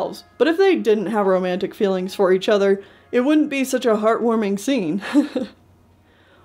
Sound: laughs

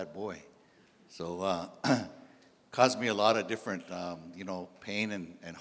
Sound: clears throat

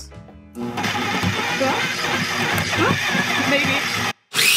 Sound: processor whirring

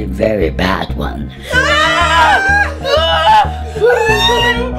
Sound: screaming

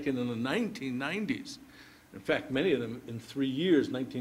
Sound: none

